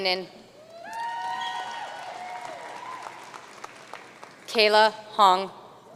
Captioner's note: audience cheering and applauding